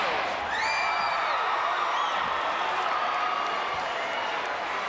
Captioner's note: crowd cheering